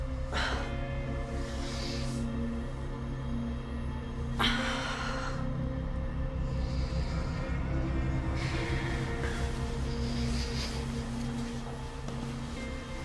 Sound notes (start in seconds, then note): 0.3 Claire sighs; 8.8 sleeping bag rustles